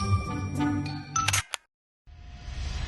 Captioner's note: camera shutter clicks